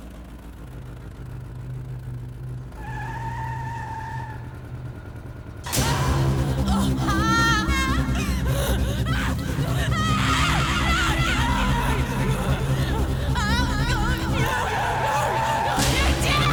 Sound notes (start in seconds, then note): 0.2 car engine revving; 0.2 suspenseful music; 3.2 tires screech; 6.3 woman groaning and screaming; 15.5 tires screech